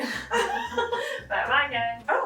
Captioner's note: laughing